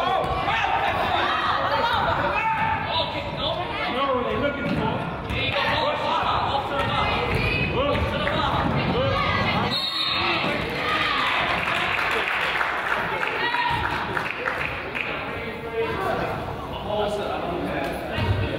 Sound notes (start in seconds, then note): 0.0 crowd yells; 0.5 coach yells; 9.6 whistle blows; 10.8 crowd applauds